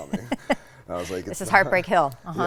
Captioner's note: laughs